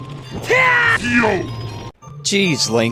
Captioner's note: Link Scream